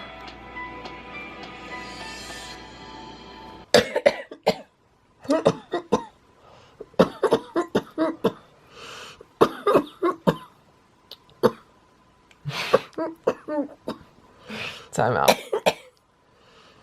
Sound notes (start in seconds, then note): 3.4 coughing; 11.2 cough; 12.7 coughing and laughing; 15.2 coughing